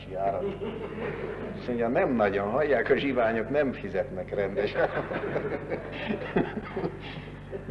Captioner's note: laughter; laughter